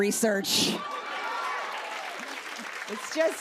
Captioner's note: laughter